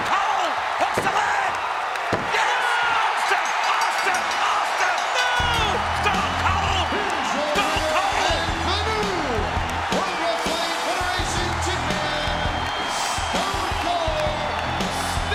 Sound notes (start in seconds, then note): 3.1 audience cheers; 3.3 bell rings